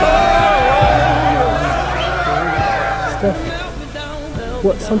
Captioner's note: people cheering and shouting